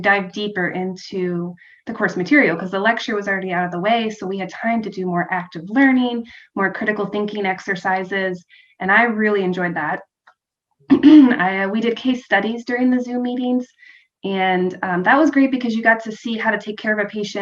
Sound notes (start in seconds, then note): 10.9 cough